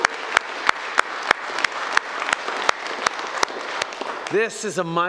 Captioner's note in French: Applaudissements